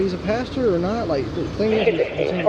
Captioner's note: radio chatter